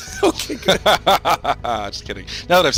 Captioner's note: laughing